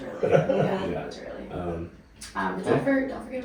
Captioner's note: laughing